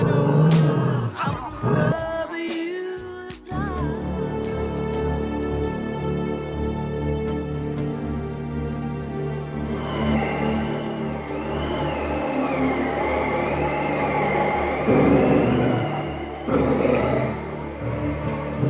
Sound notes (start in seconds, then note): 3.8 suspenseful music; 9.8 animalistic sounds